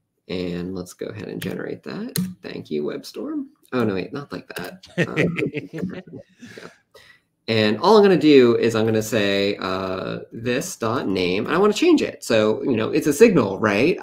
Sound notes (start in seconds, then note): 4.8 laughter